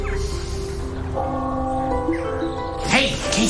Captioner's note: Clopotele sunând